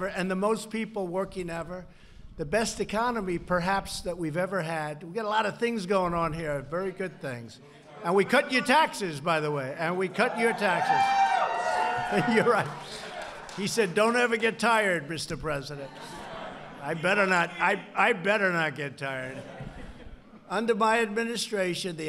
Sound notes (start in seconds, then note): 10.9 applause; 13.2 laughs; 15.8 laughter; 19.2 laughter